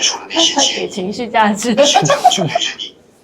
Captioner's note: laughter